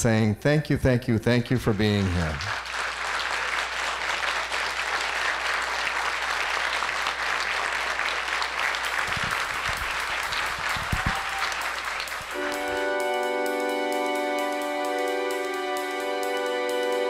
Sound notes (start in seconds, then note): 8.1 applause; 11.9 outro music